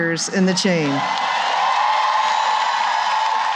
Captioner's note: cheering and applause